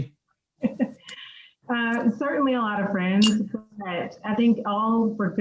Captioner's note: laughs